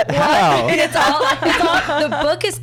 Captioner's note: laughs